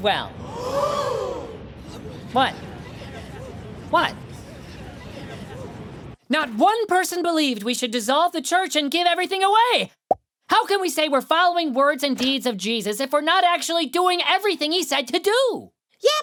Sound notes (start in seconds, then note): 0.3 gasping; 9.9 popping